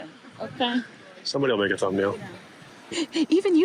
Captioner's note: laughs